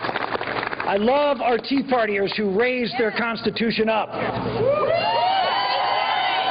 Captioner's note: applause